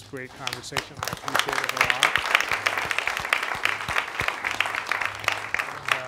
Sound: applause

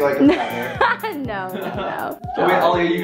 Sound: laughs

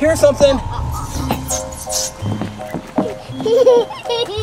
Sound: Ghost laughs; Baby Gecko laughs

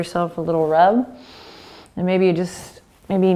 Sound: inhaling

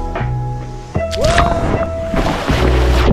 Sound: ambient music; water splashes; screams

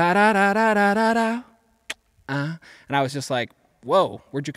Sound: humming

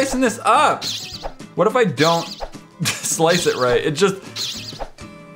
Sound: laughs

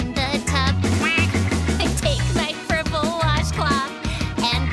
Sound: quacks

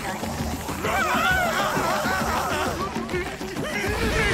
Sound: screaming

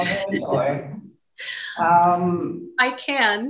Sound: laughing

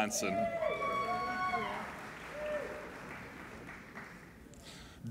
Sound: applauding and cheering

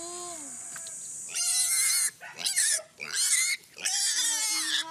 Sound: pig squealing

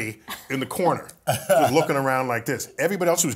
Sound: laugh

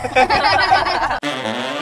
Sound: laughing; upbeat jazz band music

